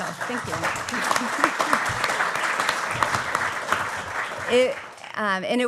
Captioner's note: applause